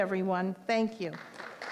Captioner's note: applause